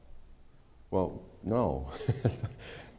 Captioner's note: laughter